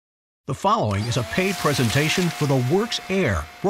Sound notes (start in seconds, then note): 0.6 voiceover